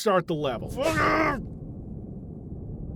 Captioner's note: grunting